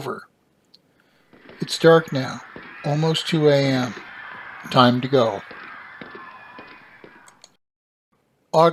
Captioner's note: men cheering and yelling